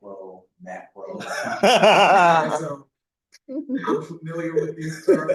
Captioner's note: laughing